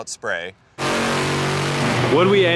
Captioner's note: engine roaring